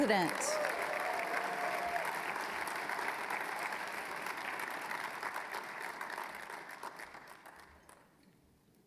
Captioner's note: applause